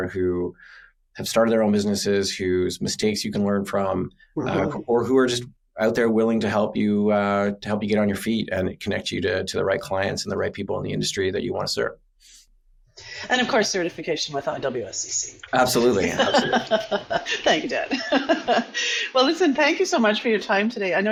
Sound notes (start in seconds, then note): 15.8 laughs